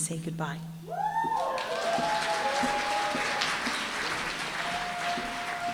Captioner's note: applause, cheering